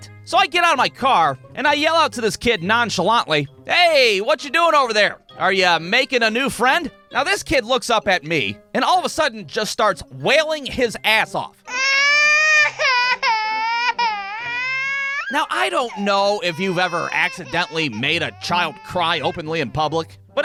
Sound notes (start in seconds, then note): 11.6 wailing as fuck